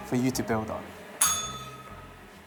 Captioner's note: bell rings